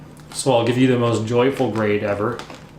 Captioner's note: none